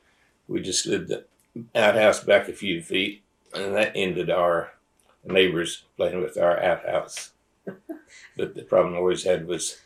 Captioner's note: laughter